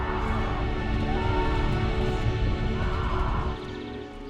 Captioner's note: screaming indistinctly